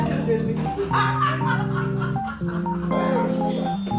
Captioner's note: delightful laughter